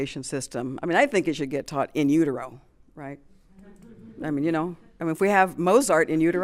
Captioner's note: chuckles